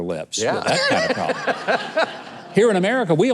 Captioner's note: audience laughing